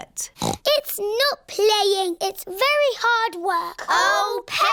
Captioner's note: snorts